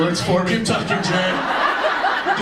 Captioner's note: audience laughs